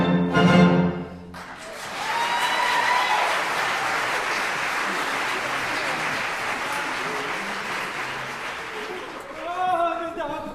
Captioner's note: applause